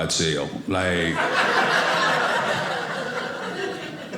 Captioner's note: audience laughing